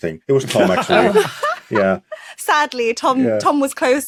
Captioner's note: laugh